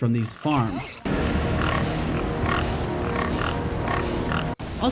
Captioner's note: epic gameplay sounds